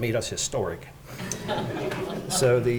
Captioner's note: audience laughing